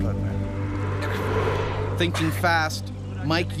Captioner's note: voiceover